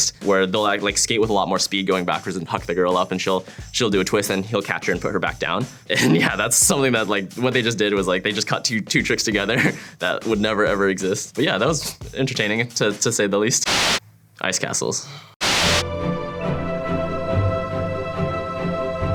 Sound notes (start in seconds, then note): 15.4 white noise; 15.8 soft music